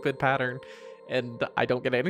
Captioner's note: breath